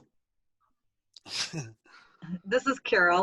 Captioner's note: man laughing